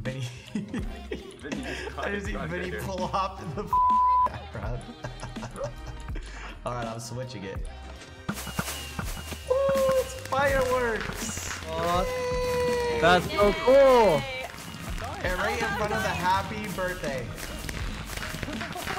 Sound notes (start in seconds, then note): 0.4 laughing; 4.3 laughing